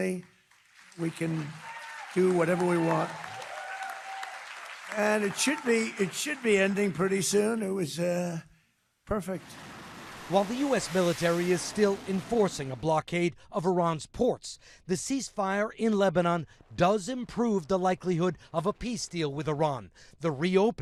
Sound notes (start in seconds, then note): 6.0 applause